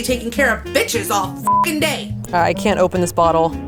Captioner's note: beep